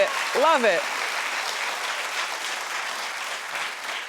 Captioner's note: audience clapping